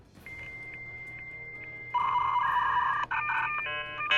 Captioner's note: beeping